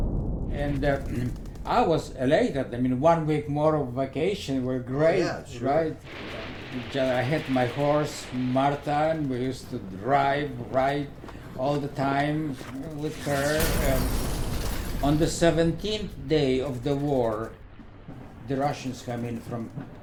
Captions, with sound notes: And I was elated I mean one week more of vacation were great. Right. Yeah, sure. I had my horse Martha and we used to drive, ride. All the time with her and (explosion) On the 17th day of the war, the Russians come in.